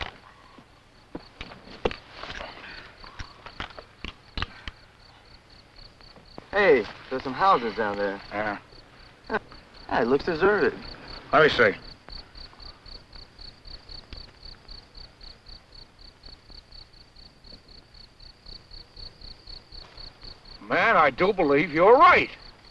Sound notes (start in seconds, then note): 0.1 crickets chirping; 12.1 crickets chirping; 22.4 crickets chirping